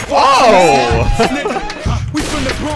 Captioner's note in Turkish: Çığlık Sesleri